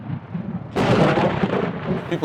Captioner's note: thunder crackling